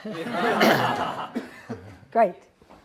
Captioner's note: audience laughs